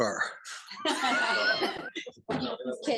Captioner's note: group laughing